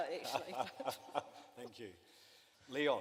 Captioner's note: some laughter